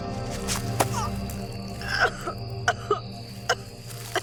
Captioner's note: Connie grunts, starts coughing